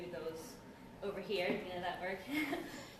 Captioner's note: laughs